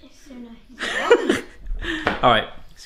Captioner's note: laughing